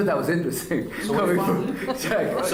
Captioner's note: laughter